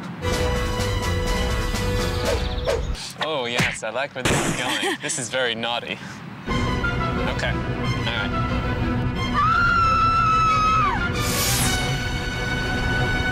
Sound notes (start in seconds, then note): 0.1 dramatic music; 4.6 laughs; 6.8 dramatic music; 9.2 dramatic music; 9.3 screaming